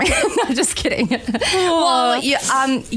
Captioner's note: laughs